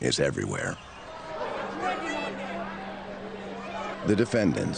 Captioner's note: crowd heckling